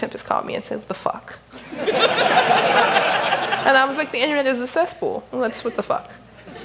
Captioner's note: laughter